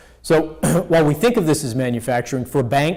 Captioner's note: clears throat